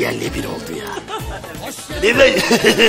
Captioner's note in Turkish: gülme sesi̇